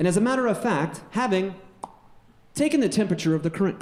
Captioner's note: pops